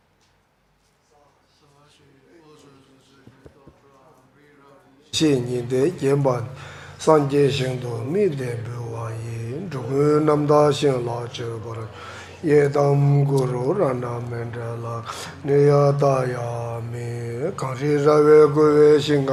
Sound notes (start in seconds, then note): 1.8 all chanting in foreign language